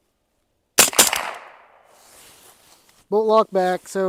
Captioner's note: gunshot